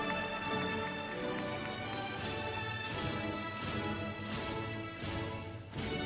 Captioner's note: audience applauding